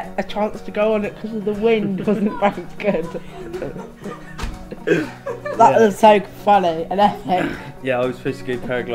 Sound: laughing

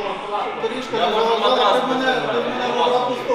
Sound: chatter

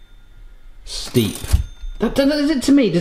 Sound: bell rings

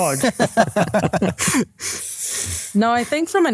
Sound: group laughing

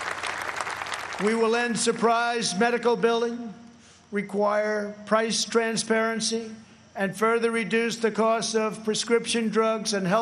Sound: applause

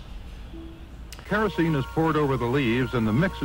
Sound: voiceover

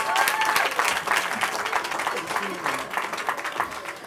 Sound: cheering

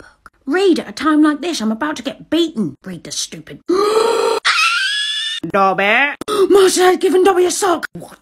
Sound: screeches

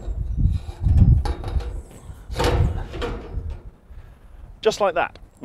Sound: metal clanging

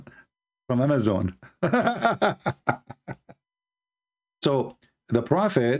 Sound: Ketawa

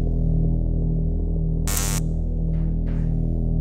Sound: electricity fizzes

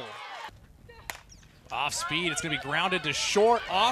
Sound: ball hitting bat

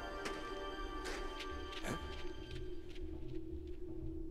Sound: faint pattering of feet

